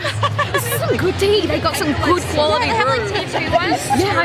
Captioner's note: laughs